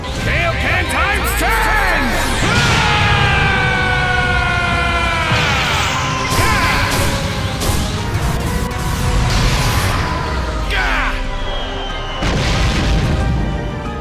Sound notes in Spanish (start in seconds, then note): 2.4 Gritos; 6.1 Grita